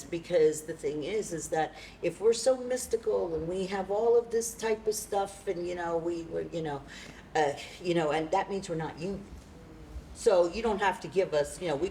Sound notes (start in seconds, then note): none